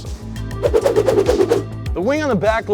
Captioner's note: whooshing sound